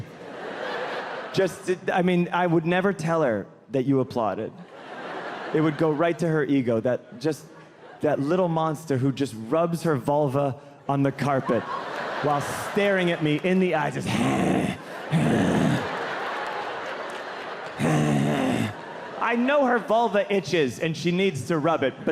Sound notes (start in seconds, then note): 15.1 imitates dog growling